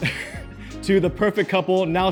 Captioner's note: laughs